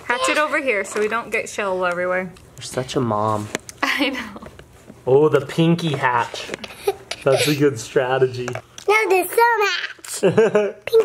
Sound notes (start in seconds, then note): 6.6 laughs; 10.1 laughs